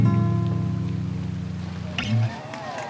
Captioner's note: applause